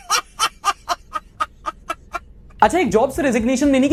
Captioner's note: laughter